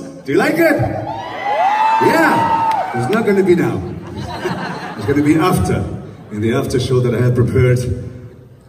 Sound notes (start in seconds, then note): 1.0 crowd reluctantly cheers; 3.4 crowd laughs